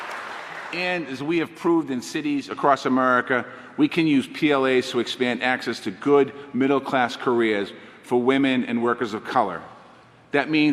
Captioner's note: applause